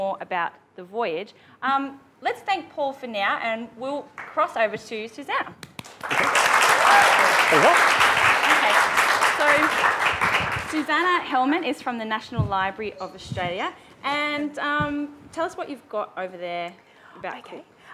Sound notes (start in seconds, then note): 5.8 presenter and audience applaud